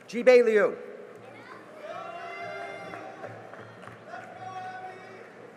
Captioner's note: cheering and applause